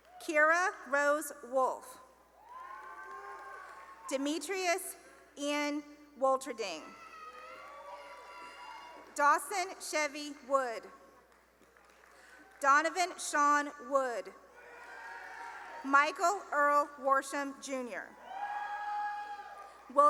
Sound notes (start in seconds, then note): 0.0 cheering and applause; 2.4 cheering; 6.8 cheering; 10.8 applause; 14.5 cheering; 18.1 cheering